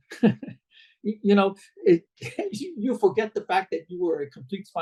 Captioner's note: laughs